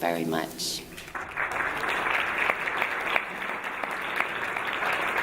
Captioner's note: audience applauding